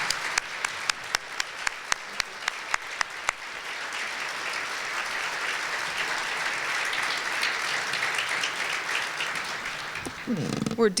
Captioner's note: applause continues